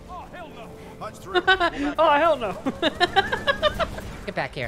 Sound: laughing

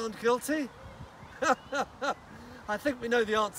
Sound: he laughs

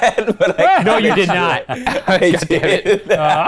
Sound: laughing

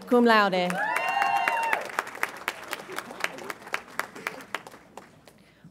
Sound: audience applauds and cheers

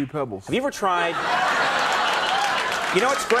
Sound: audience laughing

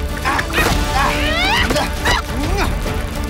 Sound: bugs clicking

